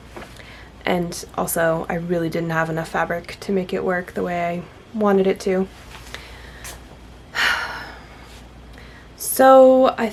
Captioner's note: sigh